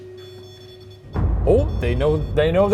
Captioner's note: REM-pod beeps; dramatic music